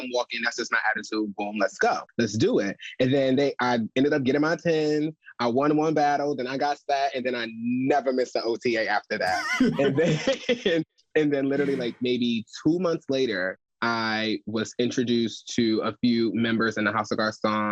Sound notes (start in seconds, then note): 9.1 chuckles; 9.2 laughs